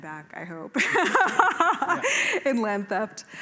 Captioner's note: laughter